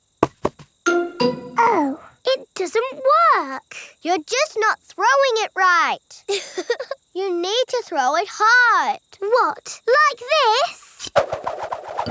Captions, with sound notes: Oh. It doesn't work. You're just not throwing it right. (CHUCKLES) You need to throw it hard! What, like this?